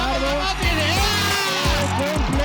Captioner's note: screams